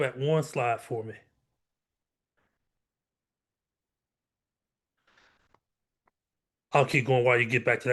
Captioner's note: pause